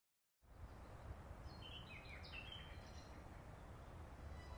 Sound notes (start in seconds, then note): 1.4 sounds of birds chirping